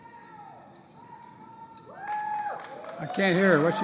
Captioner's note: applause